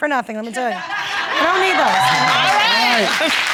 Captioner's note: audience laughing and applauding